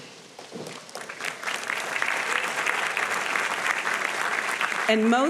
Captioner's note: audience applauding